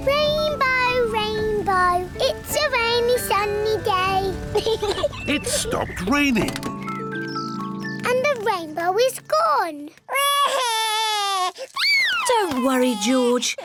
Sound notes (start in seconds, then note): 4.5 peppa pig laughs; 10.1 cries